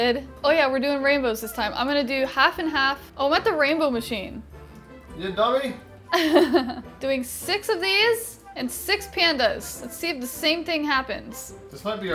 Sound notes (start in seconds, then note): 6.1 laughs